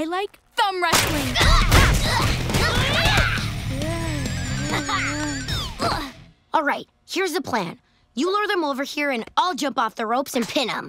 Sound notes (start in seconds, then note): 2.6 groaning; 3.7 laughing